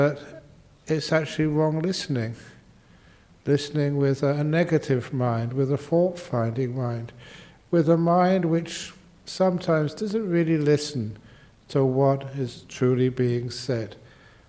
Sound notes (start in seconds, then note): none